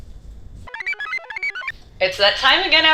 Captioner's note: computer chirps